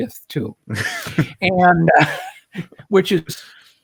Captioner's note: laughs